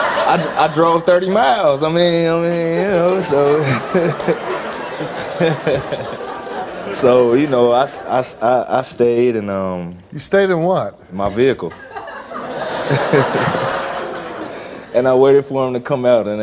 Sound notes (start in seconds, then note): 0.0 audience laughs; 2.6 laughs; 13.1 audience laughs